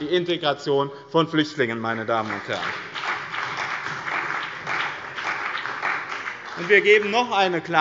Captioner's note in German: Beifall bei dem BÜNDNIS 90/DIE GRÜNEN und der CDU